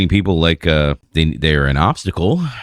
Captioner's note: uh